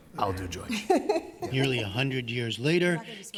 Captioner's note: laughter